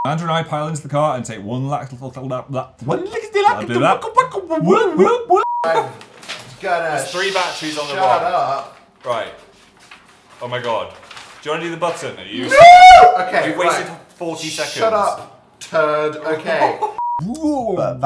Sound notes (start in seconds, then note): 16.4 laughs